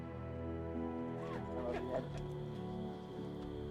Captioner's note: crying